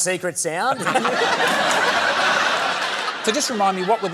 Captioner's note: laughter